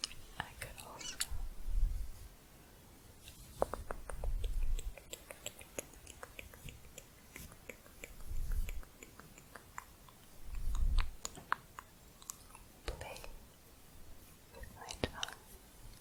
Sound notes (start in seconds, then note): 3.8 tongue clicking, slowing down